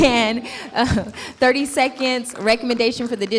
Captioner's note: clapping